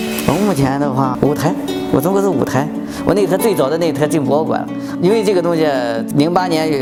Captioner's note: machines